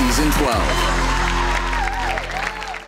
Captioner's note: audience clapping